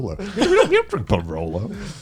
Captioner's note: guys laughing